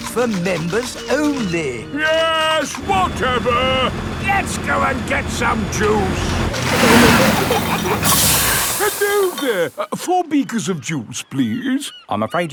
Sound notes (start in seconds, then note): 6.5 peppa and george giggling; 7.0 air hisses